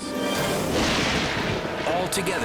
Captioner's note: thunder booms